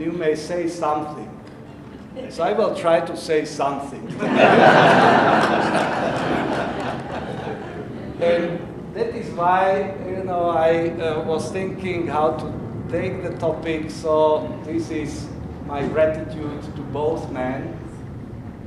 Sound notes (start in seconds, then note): 4.0 audience laughing